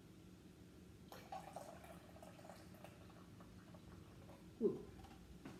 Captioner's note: milk pouring